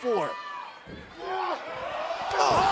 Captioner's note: wrestlers grunting